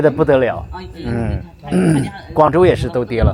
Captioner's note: nonverbal grunt as interjection